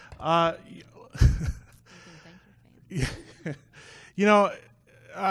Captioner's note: laughing